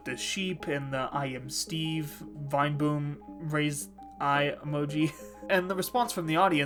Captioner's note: laughing